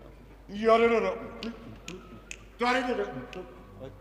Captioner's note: humming melody